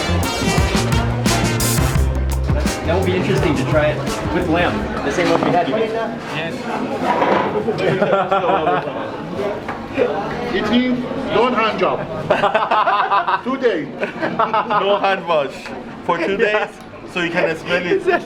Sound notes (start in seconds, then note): 7.6 laughing; 10.4 speaks in foreign language